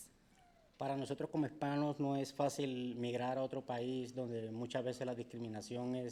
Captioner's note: speaking in foreign language